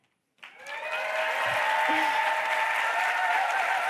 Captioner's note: cheers, applause